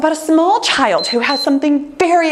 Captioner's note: timer beeps